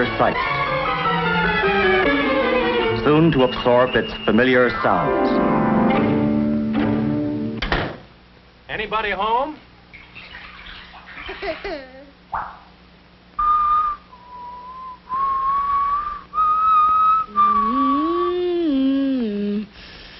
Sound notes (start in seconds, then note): 9.6 child laughing; 15.1 child whistling; 19.7 child humming